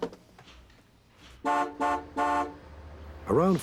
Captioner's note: horn honking